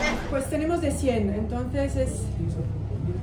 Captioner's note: in Spanish